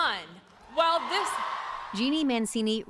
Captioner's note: cheering and applause